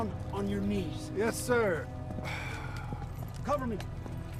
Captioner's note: sighing